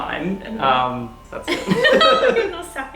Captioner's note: both narrators laughing